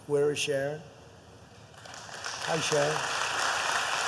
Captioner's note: applause